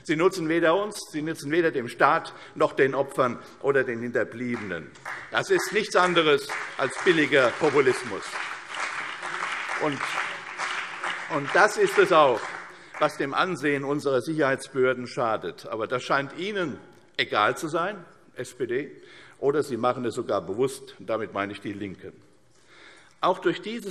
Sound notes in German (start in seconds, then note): 8.0 Beifall CDU und BÜNDNIS 90/DIE GRÜNEN